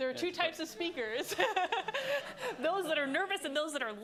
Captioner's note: laughter